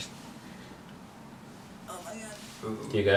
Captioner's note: strained noise